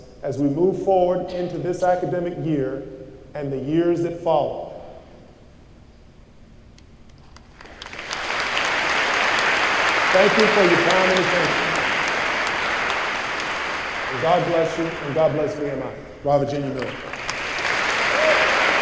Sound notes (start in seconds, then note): 7.3 applause